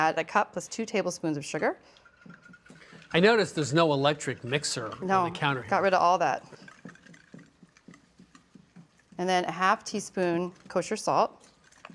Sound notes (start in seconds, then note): none